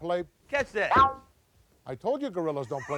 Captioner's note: ball thuds